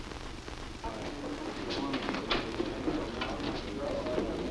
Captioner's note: background chatter